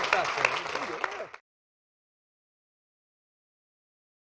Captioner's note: applause